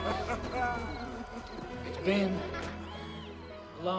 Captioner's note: laughing